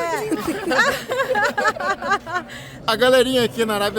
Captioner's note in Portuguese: risos